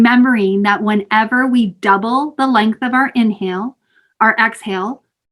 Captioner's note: exhaling